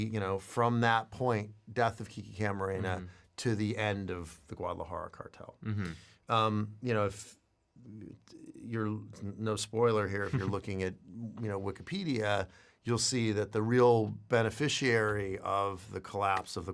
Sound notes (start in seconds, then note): 10.2 laughs